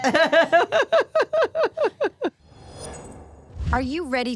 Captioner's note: Steph laughing